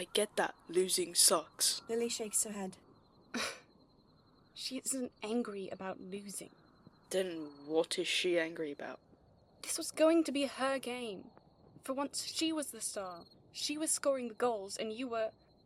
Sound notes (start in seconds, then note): 3.3 Lily laughs dryly